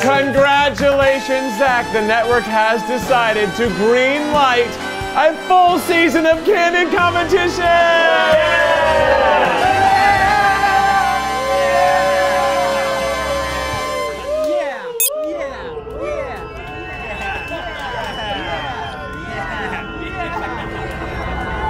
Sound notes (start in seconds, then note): 7.8 all cheering; 15.0 watch beeps; 18.6 suspenseful music